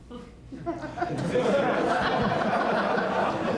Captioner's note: laughter